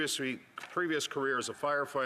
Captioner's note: applause